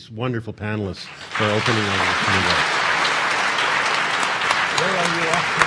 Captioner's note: audience applauding